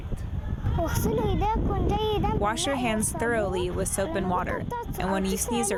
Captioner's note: through translator